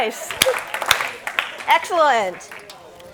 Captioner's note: group clapping